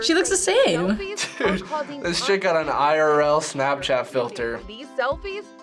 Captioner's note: chuckles